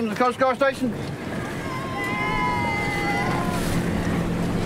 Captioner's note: cheers